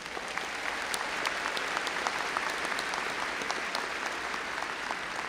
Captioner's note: audience applauding